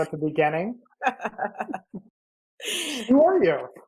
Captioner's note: laughs